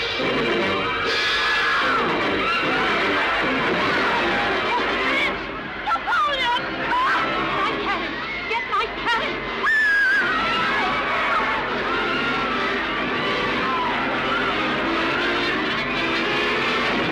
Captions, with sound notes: - Napoleon! - My carriage. Get my carriage! (woman screaming) (people shouting) (dramatic orchestral music)